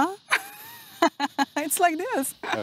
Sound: laughs

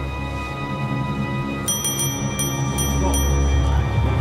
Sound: rings service bell

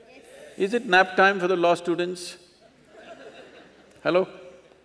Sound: laughter

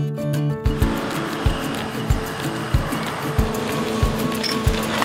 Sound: jet engine roaring

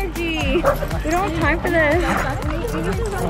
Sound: dogs barking; dogs growling

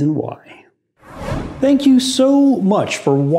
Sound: whoosh

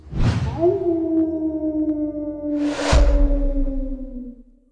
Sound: coyote Howl

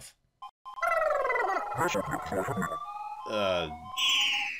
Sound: blubbering, alien vocalization

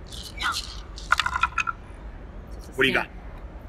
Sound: dice clattering

